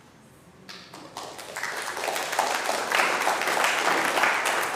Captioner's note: audience clapping